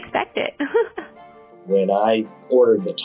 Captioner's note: laughs